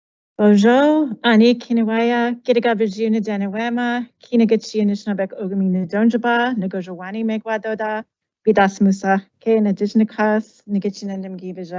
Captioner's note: introduces herself in Anishinaabemowin